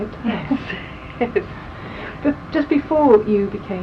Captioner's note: laughs